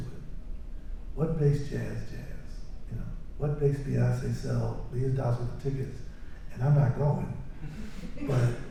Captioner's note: laughter